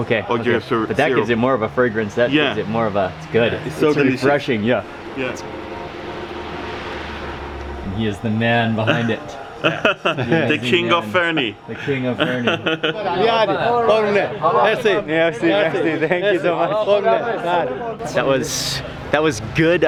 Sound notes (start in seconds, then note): 11.7 laughs; 13.9 men speaking in foreign language